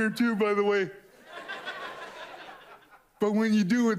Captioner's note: audience laughs